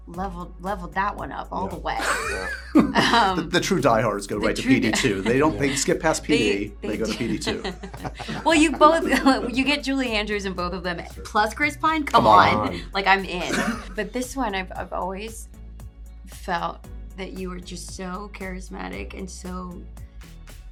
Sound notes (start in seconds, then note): 2.0 laughs